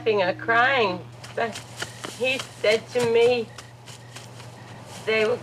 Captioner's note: footsteps pattering rapidly